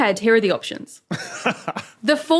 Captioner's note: chuckles